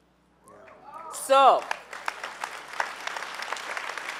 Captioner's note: clapping